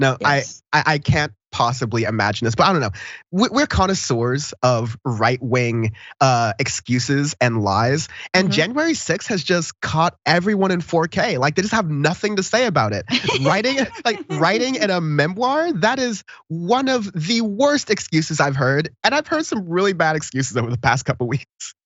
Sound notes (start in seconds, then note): 13.0 laugh